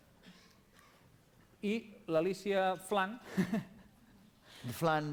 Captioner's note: non-english speech